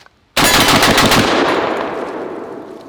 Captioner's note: gunshots